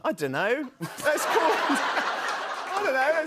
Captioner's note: laughter